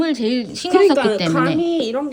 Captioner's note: excited